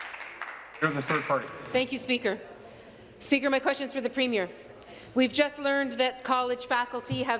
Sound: applause

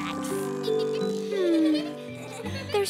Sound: gasps

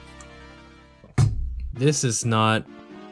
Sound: on time thud

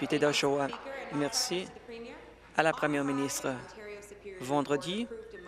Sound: applause

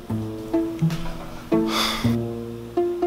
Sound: sigh

